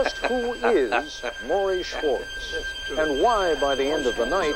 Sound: laughing

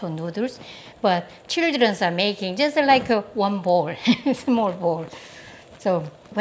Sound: laughs

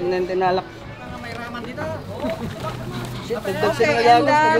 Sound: people conversing

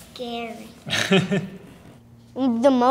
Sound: laughs

